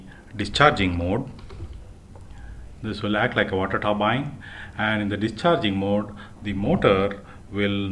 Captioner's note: suction